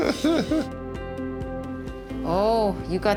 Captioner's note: laughs